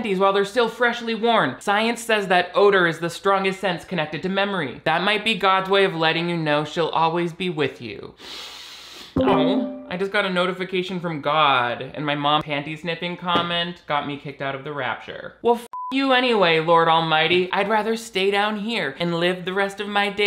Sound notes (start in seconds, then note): 8.6 sniffs; 15.7 beep